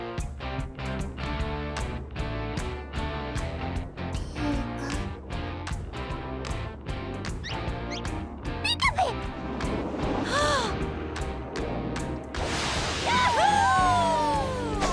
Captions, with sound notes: [upbeat music] Pika? Pika-pika! [Misty gasps] -Yahoo! -[Lapras cheers]